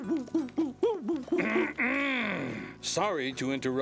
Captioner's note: clearing throat